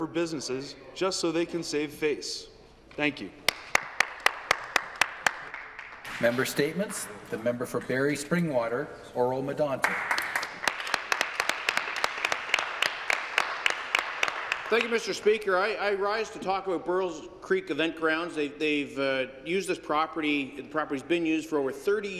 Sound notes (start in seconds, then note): 9.8 some applause